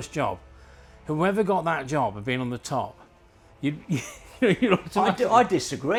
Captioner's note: laughing